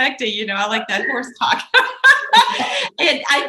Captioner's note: laughs